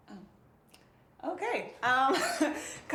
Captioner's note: chuckles nervously